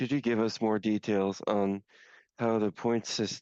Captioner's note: speaking in French